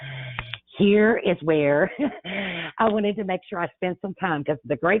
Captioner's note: chuckles